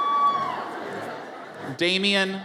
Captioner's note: audience cheers